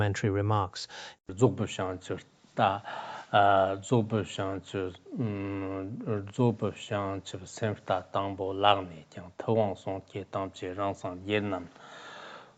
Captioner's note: giving oral transmission in Tibetan